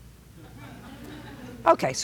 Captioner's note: light laughter